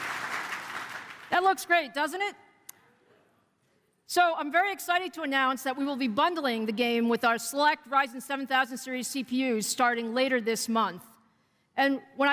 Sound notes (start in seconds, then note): 0.0 applause